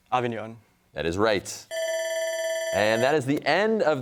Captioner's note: bell rings